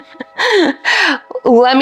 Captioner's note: laughs